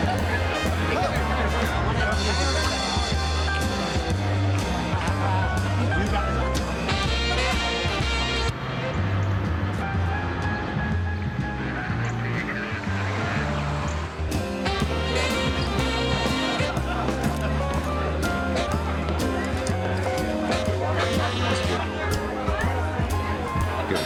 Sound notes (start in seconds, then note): 0.2 people chattering; 0.2 romantic music; 8.8 car engine humming; 12.4 people chattering; 15.1 romantic music